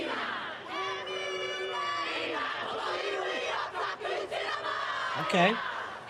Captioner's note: chanting continues